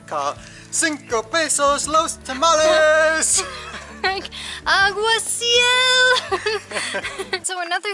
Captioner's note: laughter